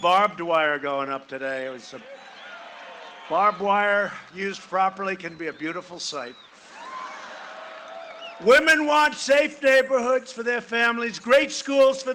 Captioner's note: cheering and applause